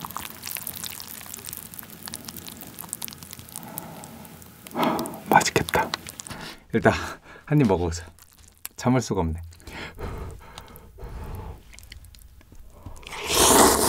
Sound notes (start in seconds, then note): 2.0 the sound of thick soup